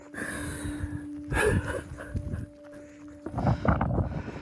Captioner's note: sobbing